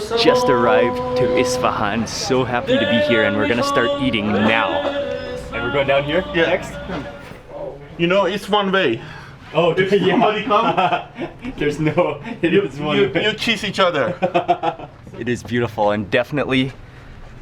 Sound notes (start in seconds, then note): 9.4 speaks in foreign language; 10.0 laughing; 13.9 laughs